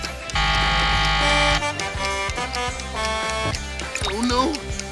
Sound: buzzer ringing; horn honking

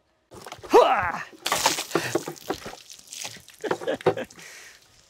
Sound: grunts; water splashes; laughs

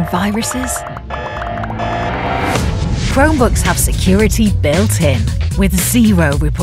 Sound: alarms

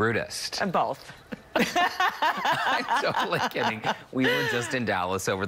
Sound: laughing

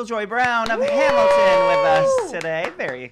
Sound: cheer

